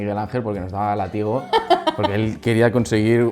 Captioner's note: laughs